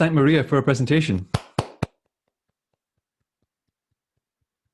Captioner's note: clapping